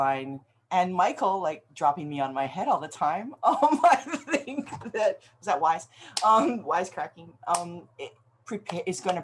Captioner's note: laughs